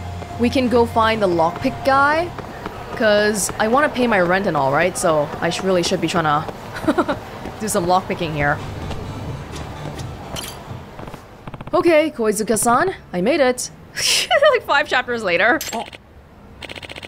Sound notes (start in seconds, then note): 6.7 chuckles; 14.0 chuckles